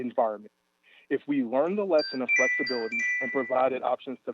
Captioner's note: chime